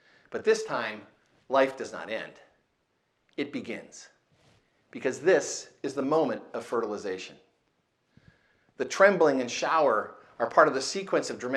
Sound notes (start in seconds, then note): none